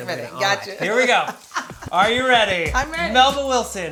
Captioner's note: laughs